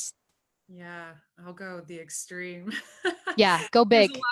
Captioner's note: laughs